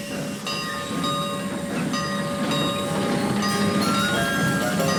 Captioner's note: train rumbling quietly; bell dinging